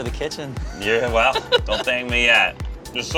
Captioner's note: laughter